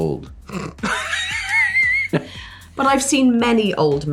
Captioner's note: laughter